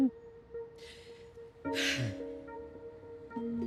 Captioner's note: exhales deeply